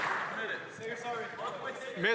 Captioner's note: some Applause